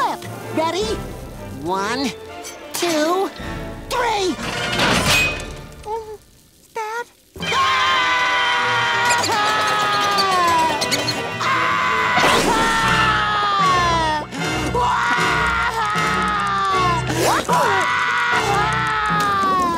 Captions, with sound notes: Ready? One, two, three! [screaming] [crying] [crying]